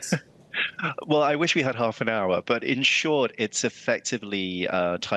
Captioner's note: laughter